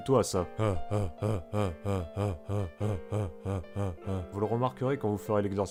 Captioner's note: failed bear sound